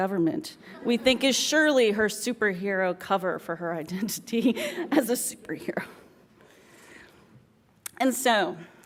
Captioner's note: laughs; laughs